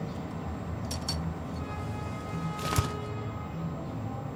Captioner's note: horn honking